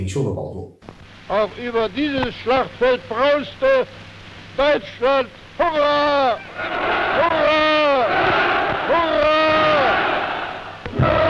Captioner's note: German speech